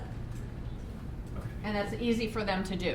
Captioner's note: voiceover